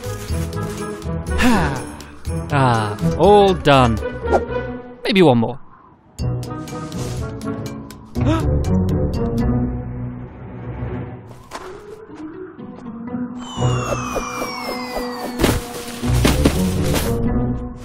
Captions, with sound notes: (Happy sigh) Aah, all done. Maybe one more. (Gasp)